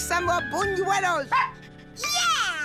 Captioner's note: barks